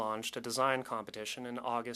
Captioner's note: speaking French